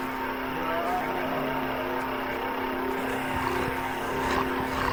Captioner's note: zombies moaning